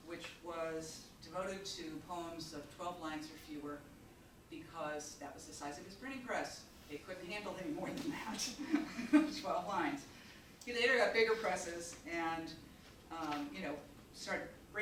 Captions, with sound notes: which was devoted to poems of 12 lines or fewer, because that was the size of his printing press. It couldn't handle any more than that (chuckles) 12 lines. (audience chuckling) He later got bigger presses and, you know,